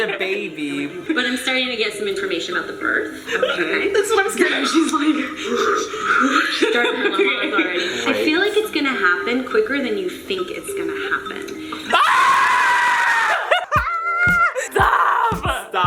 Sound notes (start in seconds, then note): 5.6 heavy breathing; 11.9 screaming